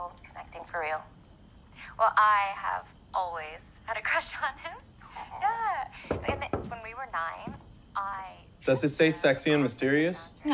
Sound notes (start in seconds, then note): 4.7 chuckles; 6.0 knocking